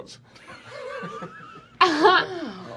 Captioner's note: laughter